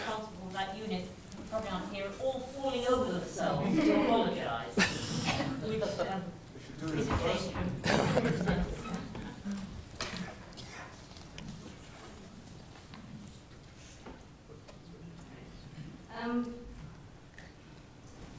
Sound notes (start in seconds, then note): 4.3 laugh